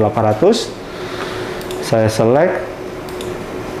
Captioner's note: clicking sound